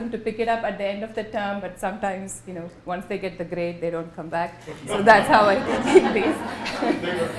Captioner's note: laughter